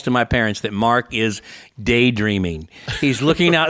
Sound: laughs

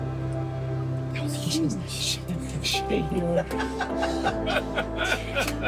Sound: laughter

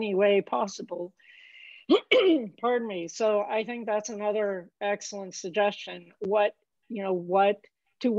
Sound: cough

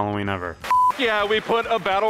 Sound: beep

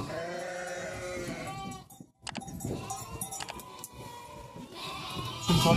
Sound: lamb sheep bleating sounds meeee meee meee

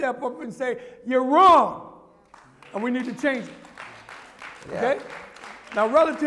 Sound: applause

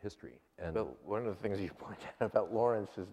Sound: laughs

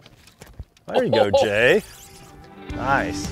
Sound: chuckles

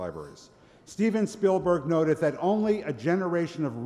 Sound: none

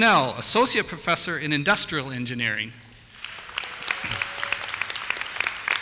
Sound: applause

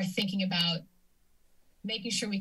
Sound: silence

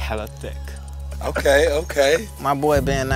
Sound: laugh

